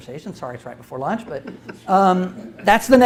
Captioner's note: audience chuckles